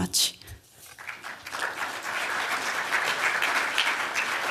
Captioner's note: applause